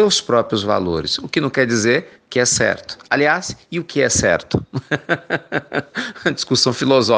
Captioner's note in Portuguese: risos